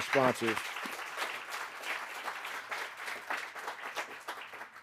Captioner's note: audience applauding